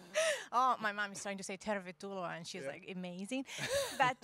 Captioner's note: Finnish